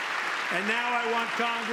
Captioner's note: applause